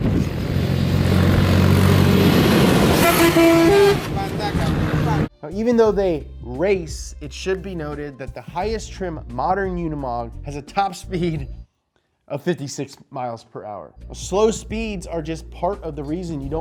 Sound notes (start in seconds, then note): 0.0 engine roaring; 3.2 truck honking